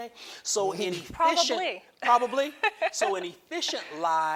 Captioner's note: laughs